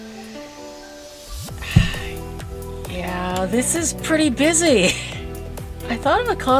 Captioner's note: sigh